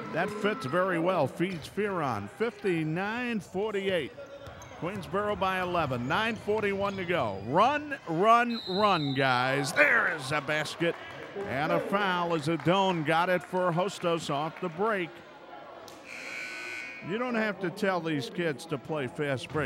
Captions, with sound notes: That fits very well, feeds Fearon. 59-48, Queensborough by 11, 9:41 to go. Run, run, run, guys. There's a basket! And a foul as Adon got it for Hostos off the break. (buzzer buzzes) You don't have to tell these kids to play fast break,